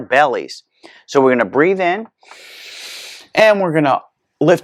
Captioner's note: inhales